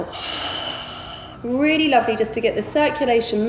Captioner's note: heavy breathing